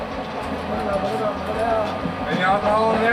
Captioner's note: in foreign language